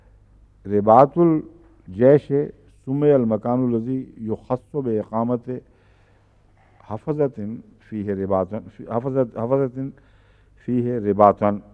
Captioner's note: Arabic